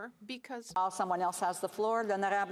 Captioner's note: speaking French